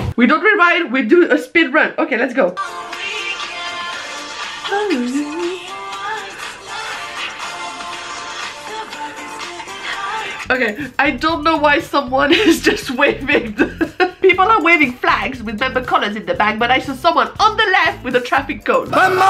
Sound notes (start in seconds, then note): 12.2 laughs